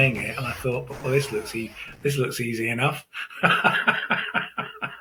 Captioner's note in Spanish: Ríe